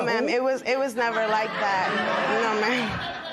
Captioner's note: laughter